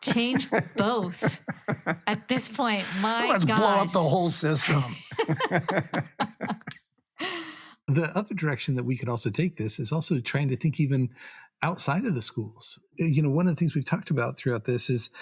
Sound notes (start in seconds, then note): 5.0 all laughing